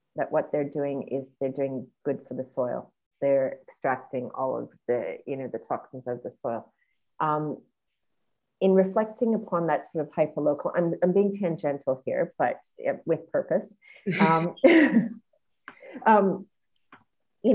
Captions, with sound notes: That what they're doing is they're doing good for the soil. They're extracting all of the toxins off the soil. In reflecting upon that sort of hyperlocal ... I'm being tangential here, but with purpose. (laughs)